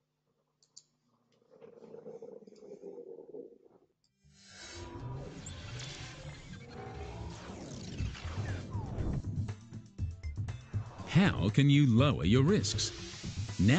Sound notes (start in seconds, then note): 4.4 whirring machinery; 9.0 dramatic techno music